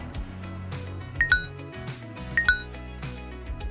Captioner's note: gentle instrumental music; notification bell ringing; gentle instrumental music